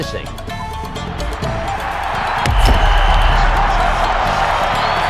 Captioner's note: crowd cheering